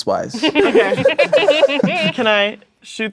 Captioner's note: players laughing